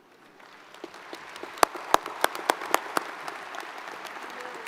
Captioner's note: audience applauds